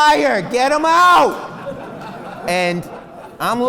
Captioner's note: laughs